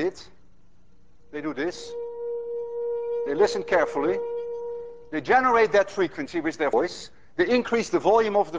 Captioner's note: plays high tone